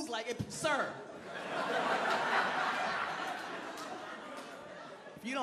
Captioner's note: crowd laughing